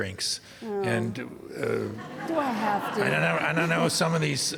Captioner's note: audience laughing